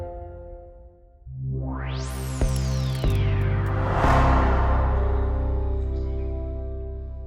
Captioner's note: logo whooshes; upbeat music